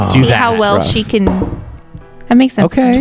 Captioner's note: groans